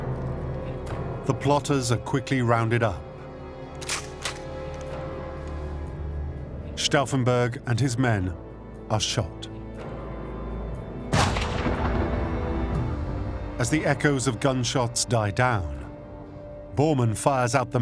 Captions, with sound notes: The plotters are quickly rounded up. [gun cocks] Stauffenberg and his men are led into the courtyard to be shot. [gunshot] As the echoes of gun shots die down, Bormann fires out the message: